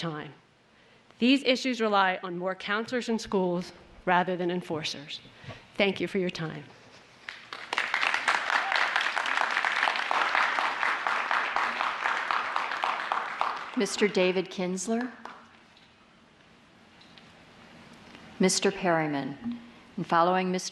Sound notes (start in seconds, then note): 10.1 applause